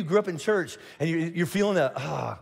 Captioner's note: sighs